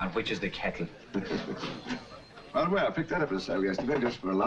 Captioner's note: chuckles